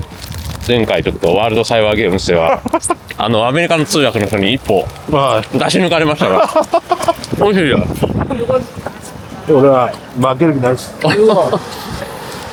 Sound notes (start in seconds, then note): 5.4 laughs